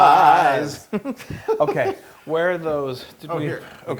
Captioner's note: laugh